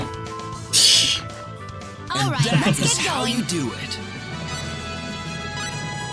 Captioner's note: laughs